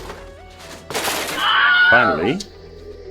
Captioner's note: package crashing; Wilhelm screams